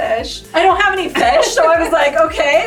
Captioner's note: laughing